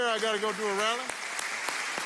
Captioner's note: applause